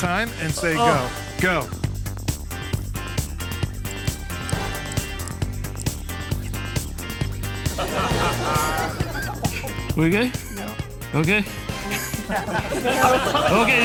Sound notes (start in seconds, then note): 3.8 upbeat music; 7.6 all laughing